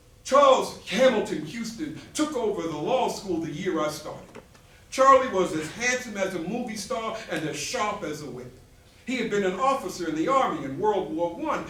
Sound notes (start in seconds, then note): none